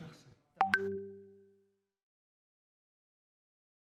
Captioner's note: silence